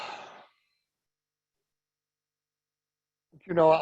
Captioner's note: sighs